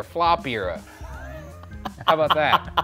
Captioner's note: laughs